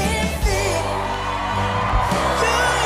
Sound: cheers and applause

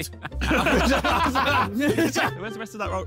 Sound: Chris laughing; all laughing

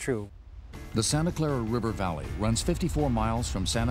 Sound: voiceover

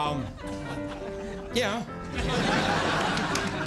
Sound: laughter

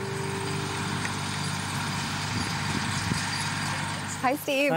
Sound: engine running

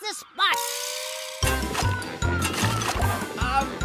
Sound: digging

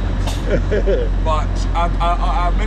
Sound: laughing

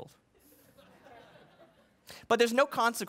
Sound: laughing

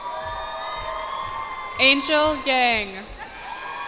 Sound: cheers and applause

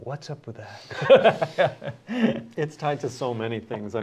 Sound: laughter

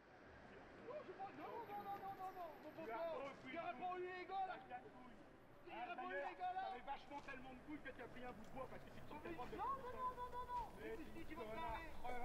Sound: people arguing offscreen

